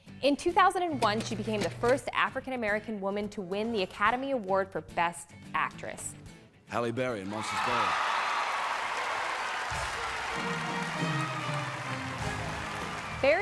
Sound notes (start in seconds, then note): 7.2 audience cheering; 10.0 reverent orchestral music